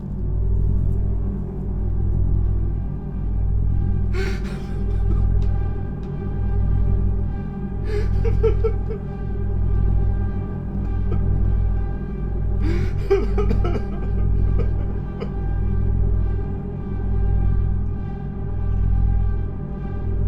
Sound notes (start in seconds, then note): 0.1 A threatening electronic rumble; 0.1 threatening ambient music; 3.4 A threatening electronic rumble; 3.4 threatening ambient music; 4.2 loud, desperate crying; 17.1 A threatening electronic rumble; 17.1 threatening ambient music